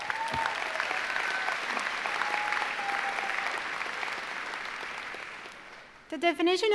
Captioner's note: applause